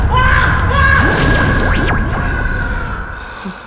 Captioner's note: transdimensional teleportation sound